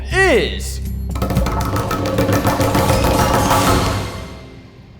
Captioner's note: drum roll on tabletop